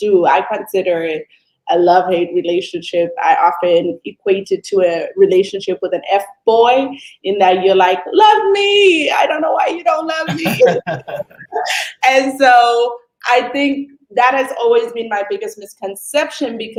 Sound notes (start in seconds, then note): 10.2 laughter